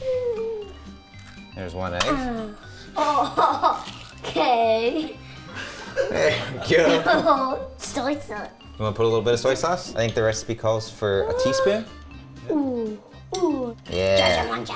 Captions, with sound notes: There's one egg. (cracks) - Oh (laughs) okay. - There you go. - Soy sauce. - Want to put a little but of soy sauce? I think the recipe calls for a teaspoon. - Oooh, oooh. - Yeah.